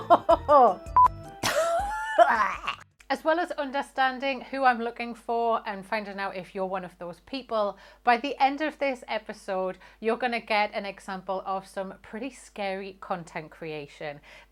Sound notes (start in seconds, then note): 1.4 gags; 1.4 laughs